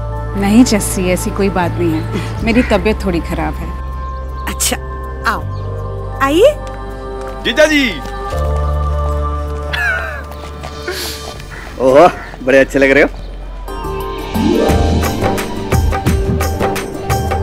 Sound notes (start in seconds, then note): 9.7 laughing